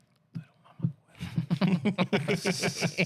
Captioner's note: laughing